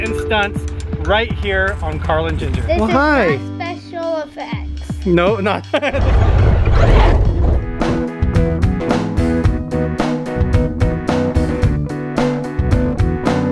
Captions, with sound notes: right here on Carl and Jinger. - This is not special effects. (laughter) (fun music)